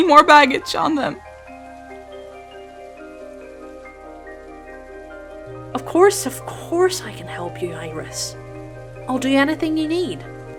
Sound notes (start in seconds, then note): none